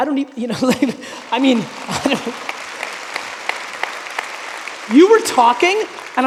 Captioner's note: audience applauding; laughing